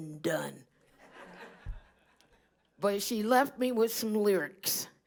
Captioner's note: laughter